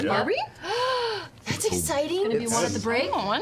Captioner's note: gasps